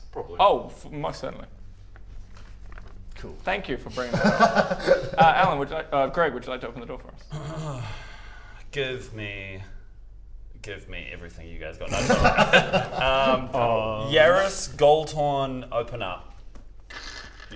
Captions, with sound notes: - Probably - Oh, most certainly Cool Thank you for bringing that up Er Alan would you like, Greg would you like to open the door for us? *clears throat* Give me give me everything you guys got no I'm joking *laughs* Yarris Goldhorn open up *crrrk*